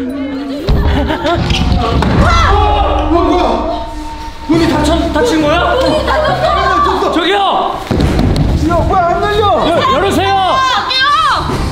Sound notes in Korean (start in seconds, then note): 0.6 쿵, 효과음; 0.8 들뜬 웃음; 1.3 문 닫는 소리; 2.2 비명; 7.7 문 두드리는 소리